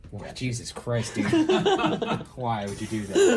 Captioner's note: laughs